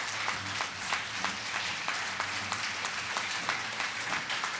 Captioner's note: audience applauding